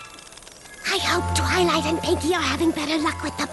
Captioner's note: whispers